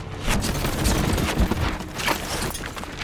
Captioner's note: items clatter